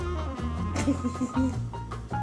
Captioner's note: giggles